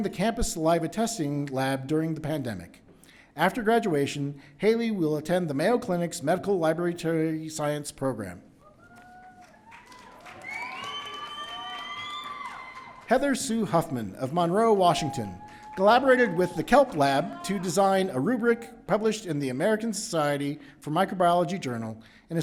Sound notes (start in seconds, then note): 8.7 audience cheering